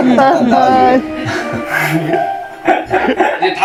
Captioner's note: haha